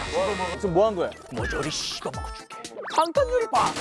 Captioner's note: voice imitation